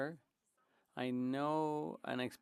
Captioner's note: speaking French